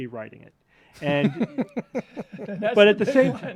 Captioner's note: laughter